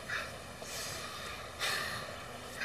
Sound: sighs

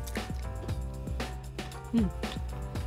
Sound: crunching

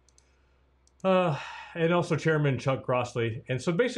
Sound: sighs

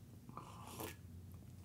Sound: slurping noise

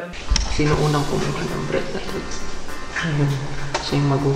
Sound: voice-over

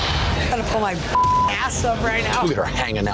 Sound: beep

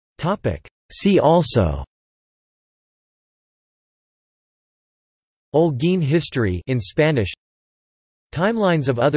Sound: in Spanish

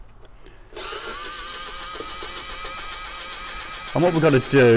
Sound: screwdriver whirring

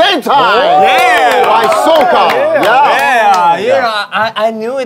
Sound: sound of cheering

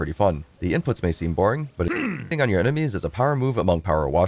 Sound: grunt

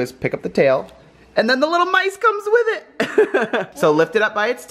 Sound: laughs

